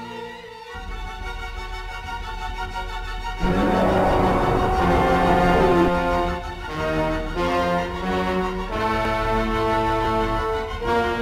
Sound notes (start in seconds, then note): 3.4 roar; 6.4 dark ominous music